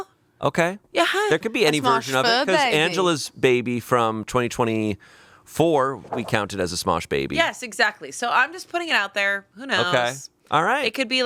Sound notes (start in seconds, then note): none